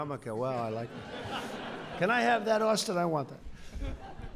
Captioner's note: laughter